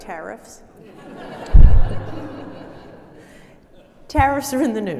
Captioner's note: audience laughing